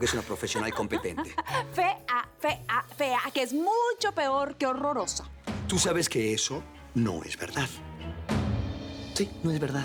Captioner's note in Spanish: Riendo